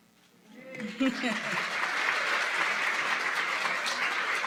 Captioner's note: applause